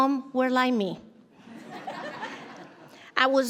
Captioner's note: audience laughs